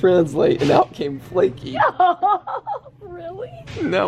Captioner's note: laughs